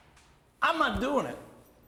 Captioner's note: none